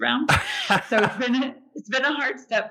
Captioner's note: laughs